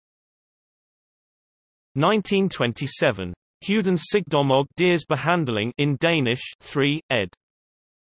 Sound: in Danish

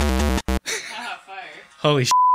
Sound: back to just the rumbling; laughs

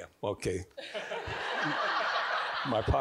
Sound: all giggling

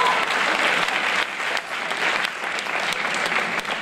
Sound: applause

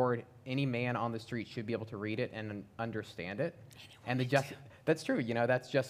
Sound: whispered: Any woman, too

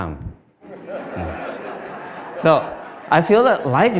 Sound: Smijeh

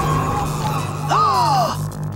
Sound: gasping

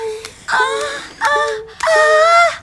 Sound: gasping loudly

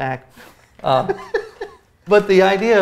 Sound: laughs

